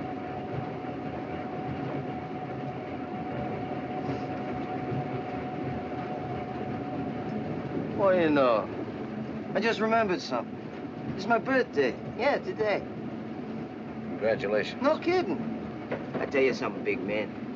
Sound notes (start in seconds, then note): none